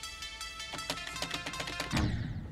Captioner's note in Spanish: machaca el teclado